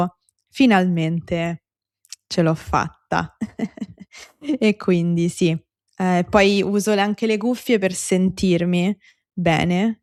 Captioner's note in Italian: risate